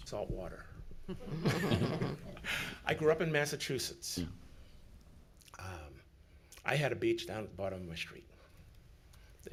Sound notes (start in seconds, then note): 1.1 everyone chuckling